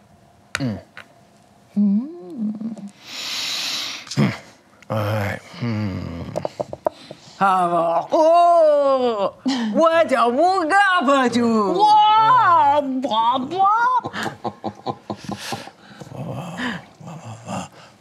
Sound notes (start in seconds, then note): 5.5 grunting; 8.7 excited grunting